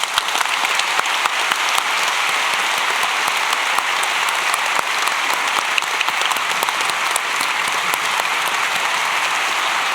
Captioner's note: applause